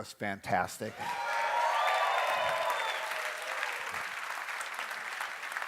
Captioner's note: applause